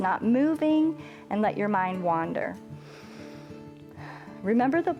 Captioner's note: inhales and exhales